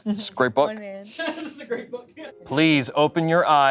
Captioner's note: laughs